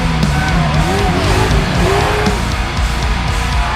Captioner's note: fans cheering